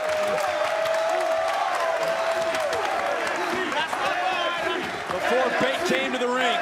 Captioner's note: crowd chants "nxt"